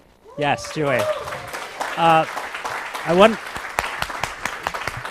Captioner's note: applause